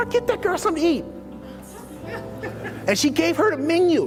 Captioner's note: laughs